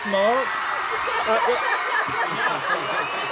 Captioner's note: applause; laughter; applause